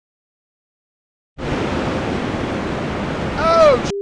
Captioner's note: blizzard whirring